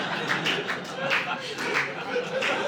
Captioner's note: audience laughing